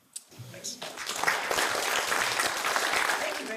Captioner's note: applause